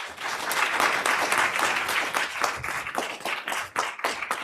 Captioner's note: audience applauds